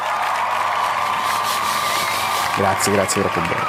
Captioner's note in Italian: Applauso